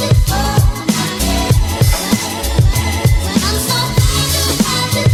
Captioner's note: phone rings